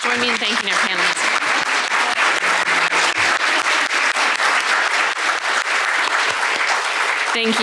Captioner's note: audience clapping